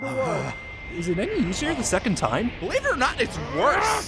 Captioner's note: non ear ringing muffledness